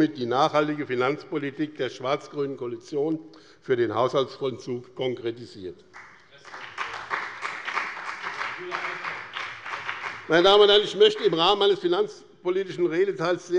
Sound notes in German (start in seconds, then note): 5.9 Beifall bei dem BÜNDNIS 90/DIE GRÜNEN und der CDU